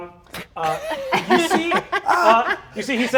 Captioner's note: laughing